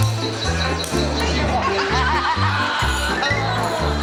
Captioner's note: laughing